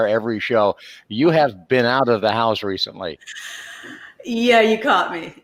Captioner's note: laughs